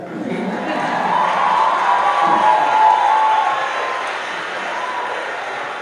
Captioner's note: audience applauding and cheering